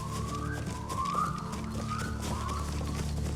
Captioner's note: whistles